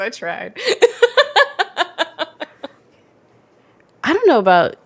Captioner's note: both laugh